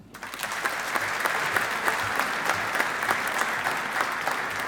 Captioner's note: audience applauding